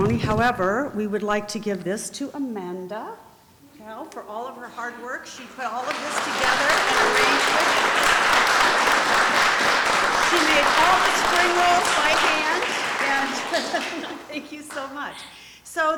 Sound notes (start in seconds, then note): 8.2 applause